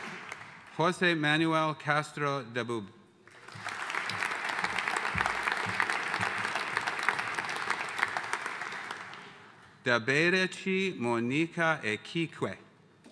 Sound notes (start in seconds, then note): 3.3 audience cheering and applauding